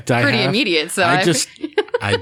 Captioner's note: laughter